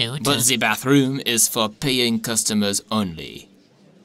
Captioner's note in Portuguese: none